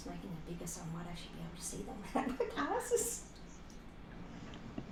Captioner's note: laughter